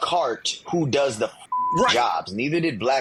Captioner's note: beep